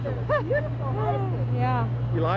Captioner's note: laughing